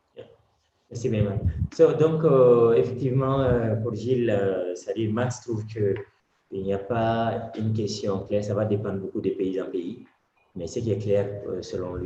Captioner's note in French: Speaking in French